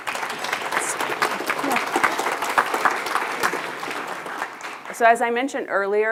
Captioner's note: attendees laughing and applauding